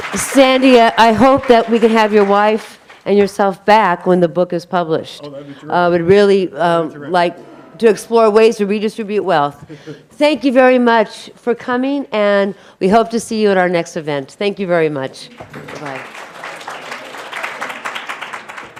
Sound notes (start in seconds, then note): 9.6 laughing; 15.3 audience applauding